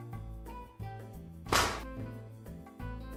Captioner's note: slapping sound